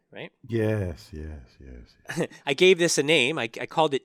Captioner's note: laugh